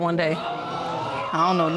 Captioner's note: audience gasping